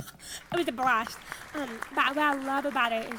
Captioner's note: audience applauds